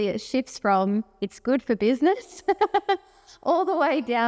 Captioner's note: chuckles